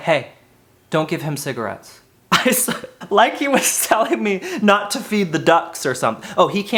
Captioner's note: laughs